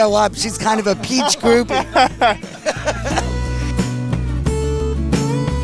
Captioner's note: both laughing; soft music